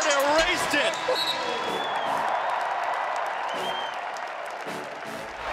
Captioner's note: audience clapping